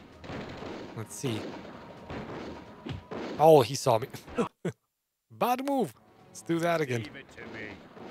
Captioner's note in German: Lacht